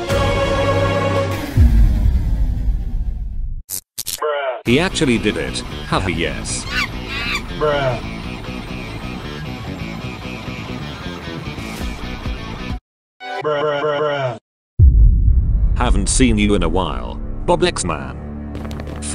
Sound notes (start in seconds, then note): 6.4 monke hapi noises